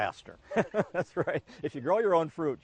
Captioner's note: laughs